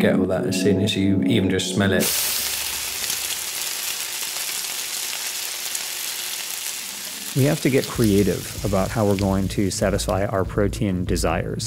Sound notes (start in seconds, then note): 2.0 sizzle